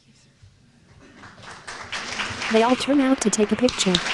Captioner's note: applause